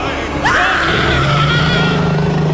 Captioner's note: scary Scream